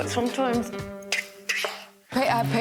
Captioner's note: smack-smack!